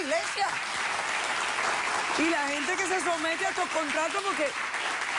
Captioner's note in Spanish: Aplausos